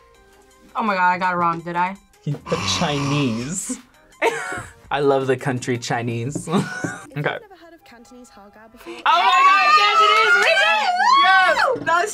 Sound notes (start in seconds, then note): 2.4 laughs; 6.6 laughs